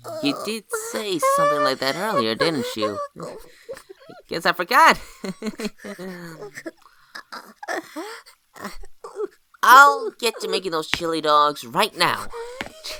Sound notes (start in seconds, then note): 5.0 chuckles nervously